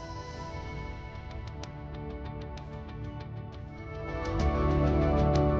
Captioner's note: the applause and cheer at this moment